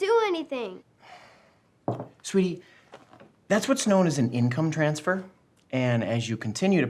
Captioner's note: sighs